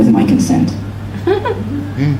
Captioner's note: laughter